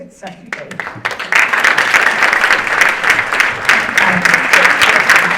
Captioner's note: audience applauding